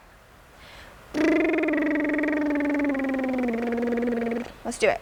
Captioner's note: lip burring sound